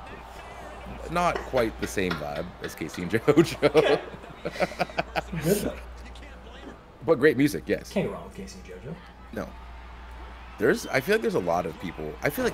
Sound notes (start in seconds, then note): 3.0 laugh